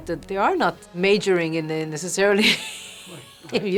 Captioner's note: laughing